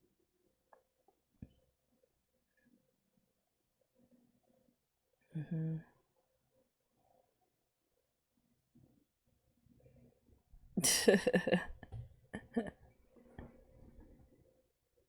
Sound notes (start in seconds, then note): 10.7 laughs